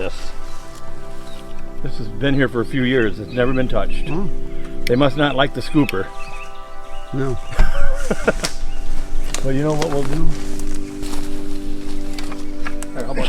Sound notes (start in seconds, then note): 7.5 chuckling